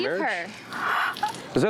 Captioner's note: gasps